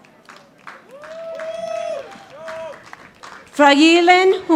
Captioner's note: audience applauding